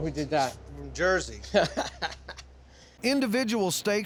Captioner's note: laughs